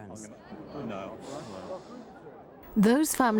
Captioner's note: group chattering